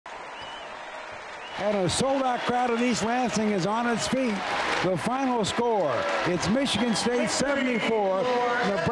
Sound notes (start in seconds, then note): 0.3 audience cheering; 2.7 audience clapping